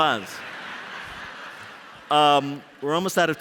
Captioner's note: laughter